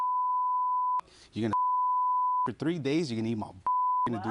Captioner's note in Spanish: Bip